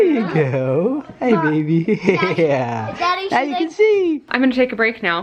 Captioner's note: laughs